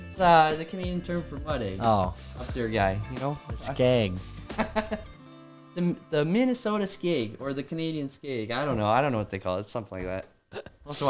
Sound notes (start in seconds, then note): 4.5 laughs